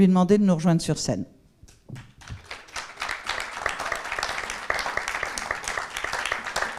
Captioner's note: applause